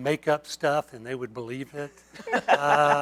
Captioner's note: laughter